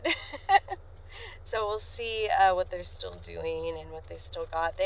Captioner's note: laughs